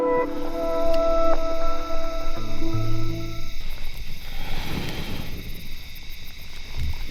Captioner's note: insects chirp; lighter flicks